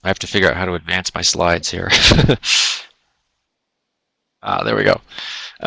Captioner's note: laughs